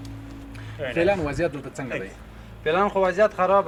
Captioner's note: translator speaking in a foreign language; speaking in a foreign language